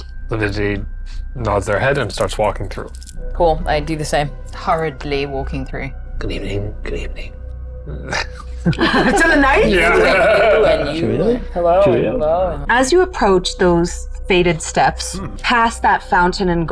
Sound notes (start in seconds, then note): 8.0 players chuckling; 11.0 laughs